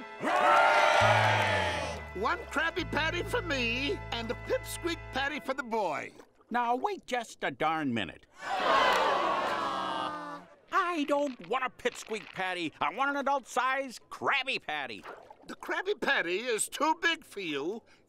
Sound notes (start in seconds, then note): 0.0 cheering; 8.3 disappointed moans